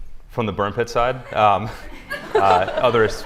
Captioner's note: laughter